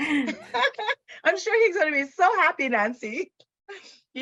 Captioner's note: laughs